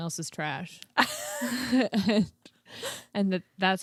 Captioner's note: both laughing